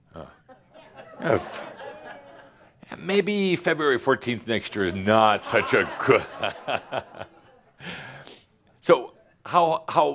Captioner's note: laughs